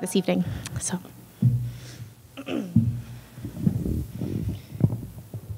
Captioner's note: clears throat